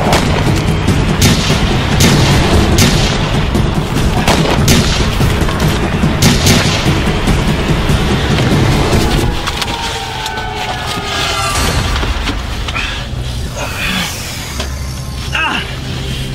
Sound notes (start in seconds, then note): 0.0 gun shots firing; 9.5 intense music